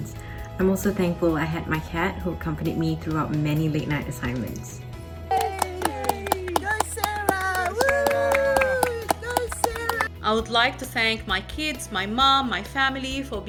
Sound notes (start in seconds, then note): 5.2 crowd applauds